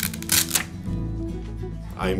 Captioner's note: velcro ripping